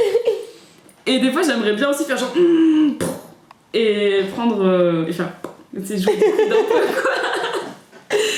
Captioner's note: laughter